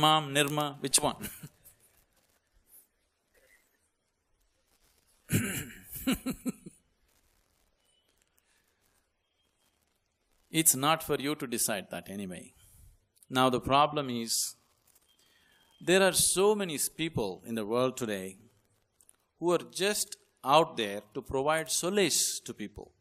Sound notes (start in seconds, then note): 9.8 laughs